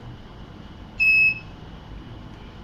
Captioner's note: beeps